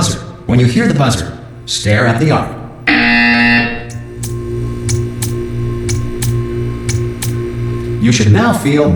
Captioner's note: buzz